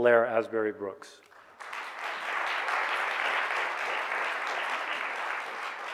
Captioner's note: audience clapping